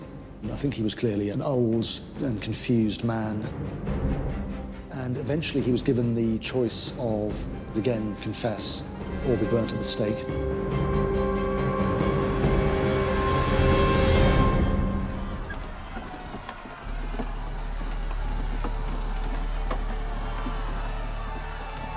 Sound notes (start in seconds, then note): 14.3 crowd cheers; 18.3 horse and cart noises